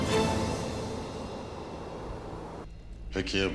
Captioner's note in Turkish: Rüzgâr sesi